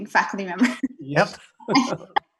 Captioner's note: laughing